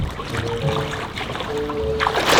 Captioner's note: water splashing